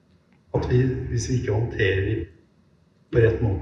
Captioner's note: non-english speech